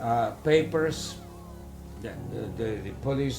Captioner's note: steam hissing